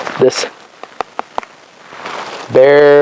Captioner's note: chomps down